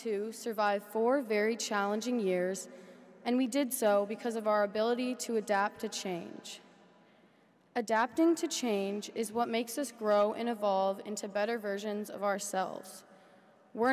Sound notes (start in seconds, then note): none